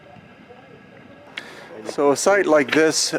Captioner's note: tourists chattering